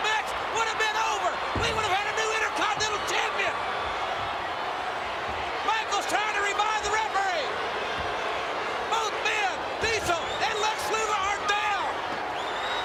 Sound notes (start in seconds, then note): 4.3 crowd booing